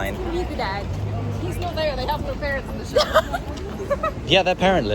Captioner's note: laughter